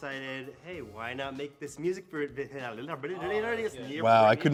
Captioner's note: stammering